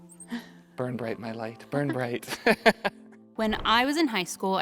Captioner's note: laughs